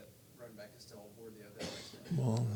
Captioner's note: person coughs